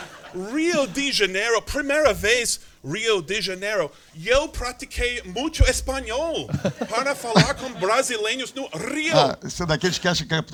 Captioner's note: in Spanish